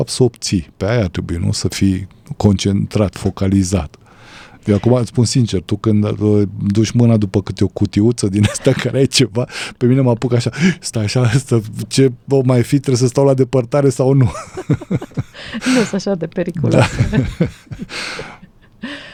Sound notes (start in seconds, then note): 14.2 laughter